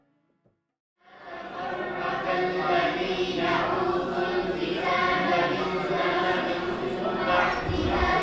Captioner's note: children reciting Qur'an